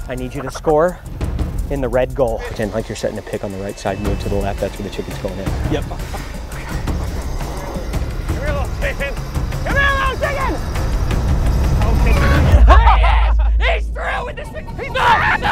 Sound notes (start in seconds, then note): 12.3 clucking